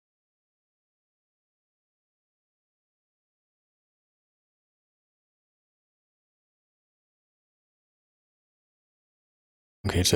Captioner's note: blank Audio